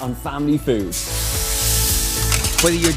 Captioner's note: meat searing